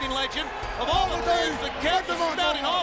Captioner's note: Meng mumbling